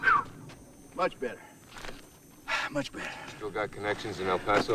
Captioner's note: sighs